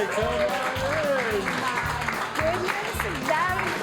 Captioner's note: all applaud